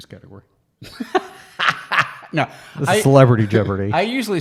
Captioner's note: laughs